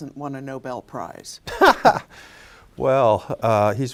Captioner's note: laughing